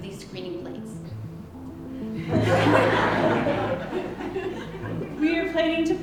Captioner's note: laughter